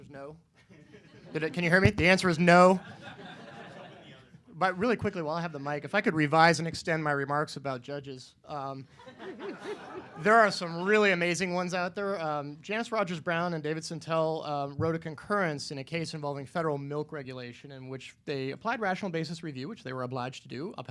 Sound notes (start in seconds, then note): 2.7 laughter